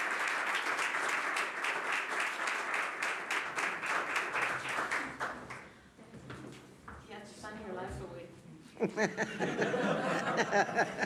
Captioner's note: applause